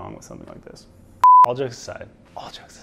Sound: beep

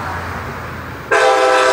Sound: loud horn

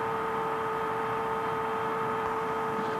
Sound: whispers

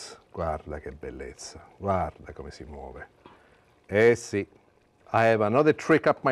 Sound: speaking Italian

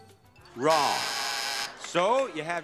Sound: buzzer buzzing

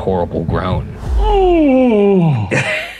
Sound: groaning; laughing

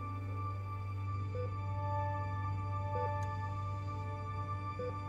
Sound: monitor beeping steadily

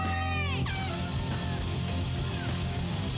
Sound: horn toots

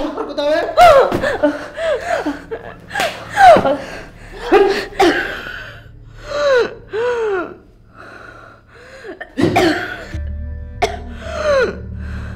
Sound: Chinni coughing and grunting

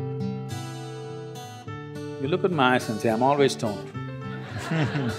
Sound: laughter

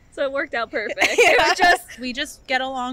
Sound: laughing

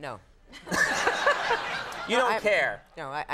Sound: laughing

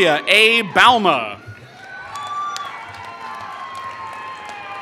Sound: applause

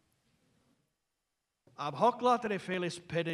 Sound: non-english speech

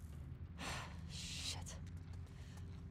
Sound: sigh

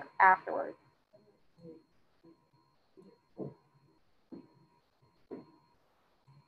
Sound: student speaking faintly

